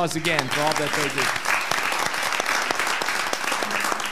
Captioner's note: all applauding